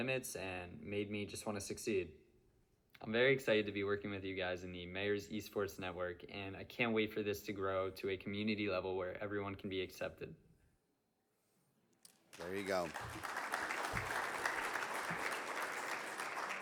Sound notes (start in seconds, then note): 12.2 audience applauds